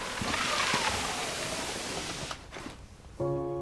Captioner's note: sliding basket